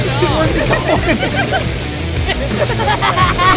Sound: voiceover; laughing

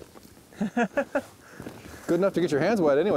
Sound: laughs

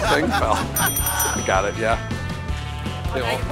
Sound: ding!

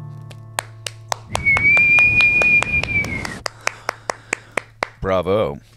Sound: clapping and whistling

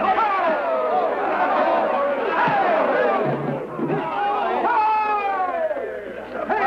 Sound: cheering

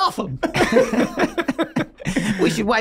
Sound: all laughing

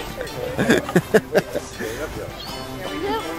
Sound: laughing

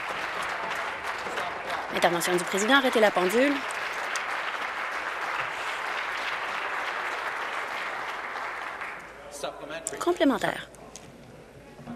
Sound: applause

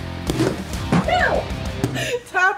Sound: slap; slap

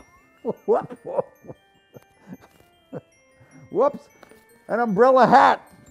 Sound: laugh

